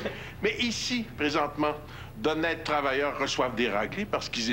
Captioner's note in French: Rires